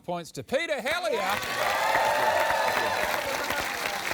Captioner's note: cheering, applause